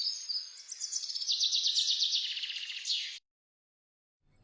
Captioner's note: birds chirping